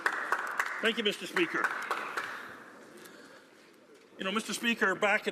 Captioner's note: some Applause